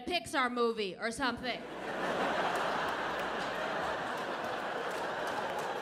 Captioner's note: audience laughing